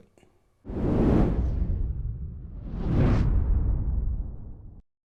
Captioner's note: logo whooshing